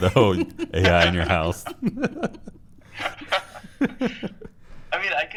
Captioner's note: laughter